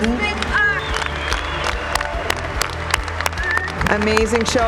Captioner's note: applaudissements bruyants